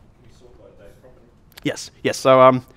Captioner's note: voiceover